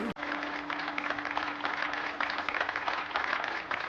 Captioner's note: audience applauds